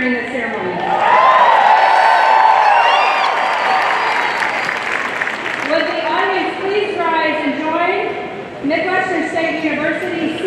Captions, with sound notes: during this ceremony. (audience cheering and clapping) Would the audience please rise and join Midwestern State University